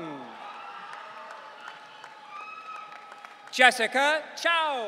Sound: audience cheering

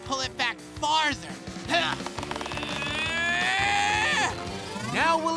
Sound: grunting

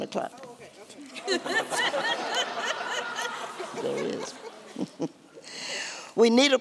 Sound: laughter

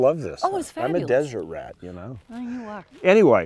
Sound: lying voice

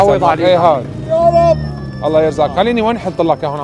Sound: the old man grunts in frustration

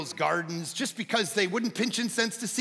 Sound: none

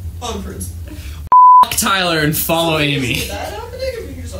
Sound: beep

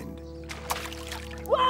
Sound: water splashing

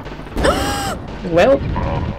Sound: gasp

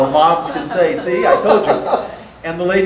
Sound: audience laughter

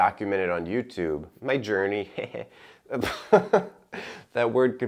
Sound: chuckles

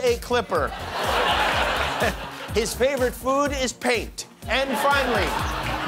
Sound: laughter

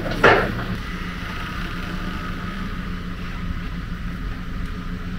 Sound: engine running

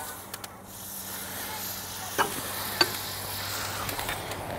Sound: butter sizzling

